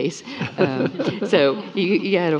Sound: panelists laughing

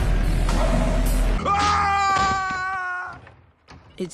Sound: Soos screams

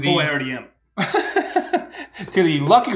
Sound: laughing

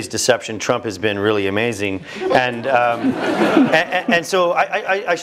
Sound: laugh

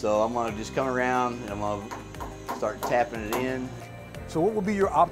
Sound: tapping sound

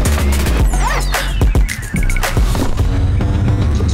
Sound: electronic dance music; bag zips

